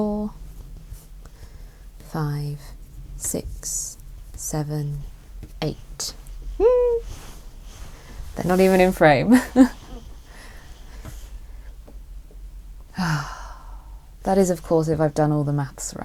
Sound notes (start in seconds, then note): 6.6 sighs